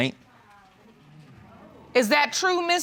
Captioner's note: audience exclaims